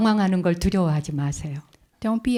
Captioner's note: speaking in Korean